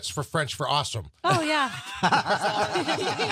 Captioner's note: all laughing